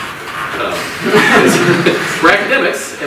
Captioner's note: audience laughs